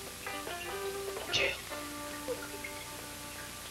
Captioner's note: john, quietly